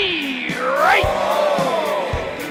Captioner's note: begins laughing